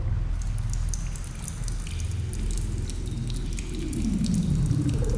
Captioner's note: ominous music; water trickles; ominous music